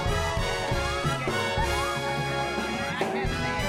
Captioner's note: excited chatter